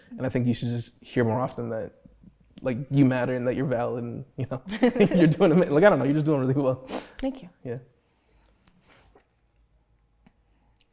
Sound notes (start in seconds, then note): 4.7 both laugh